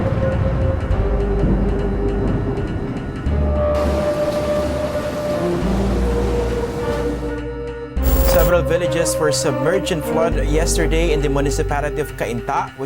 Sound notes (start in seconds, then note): 0.0 thunderstorms from a distance; 3.7 heavy rainfall